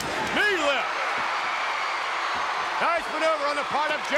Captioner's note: crowd cheers